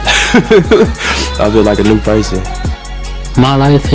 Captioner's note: laughs